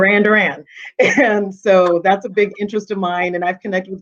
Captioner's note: chuckling